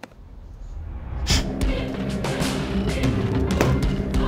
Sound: patron snorting; defiant music continues

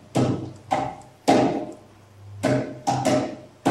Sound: tapping

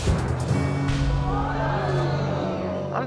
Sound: audience gasps

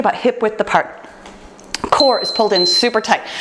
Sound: timer beeps

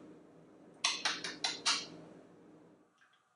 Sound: more smooches

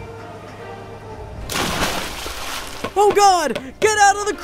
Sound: water splashing

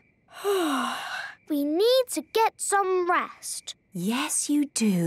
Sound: yawning

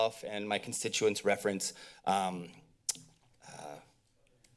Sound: mouth clicks

